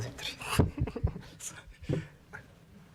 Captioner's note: laugh